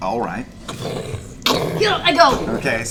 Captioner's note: booming footsteps